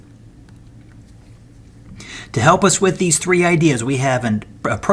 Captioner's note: turn page